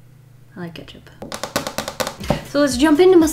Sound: taps nails on desk

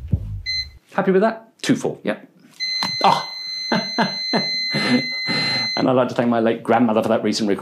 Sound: continuous beep

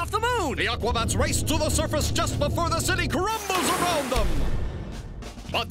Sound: narrator Voice

